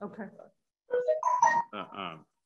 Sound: ringtone

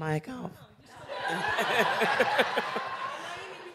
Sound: laughter

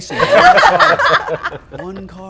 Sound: laughter

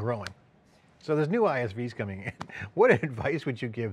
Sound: chuckles

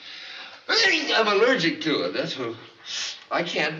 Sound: sneezes

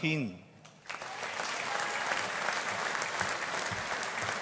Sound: audience applauding

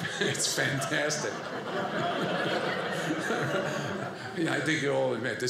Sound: audience laughing

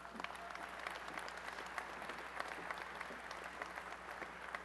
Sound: applause

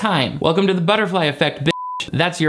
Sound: beep

